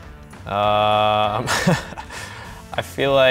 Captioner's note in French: rires